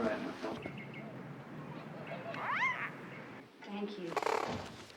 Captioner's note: birds chirping